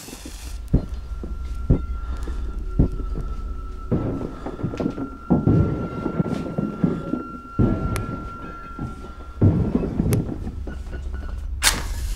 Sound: smashing continues

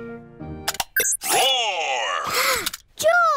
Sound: gasps

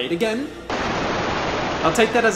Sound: static

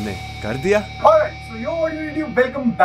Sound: alien sounds

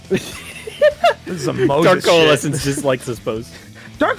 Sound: laughs

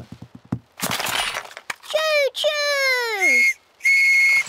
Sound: blasts on whistle

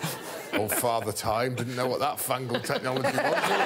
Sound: all laughing

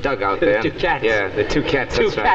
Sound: chuckling

